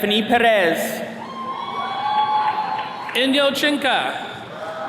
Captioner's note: attendees cheering